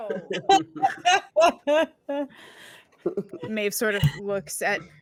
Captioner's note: laughing